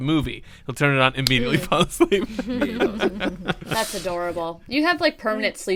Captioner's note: laughter